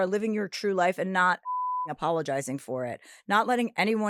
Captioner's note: beep